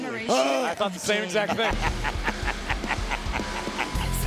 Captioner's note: Booker T laughs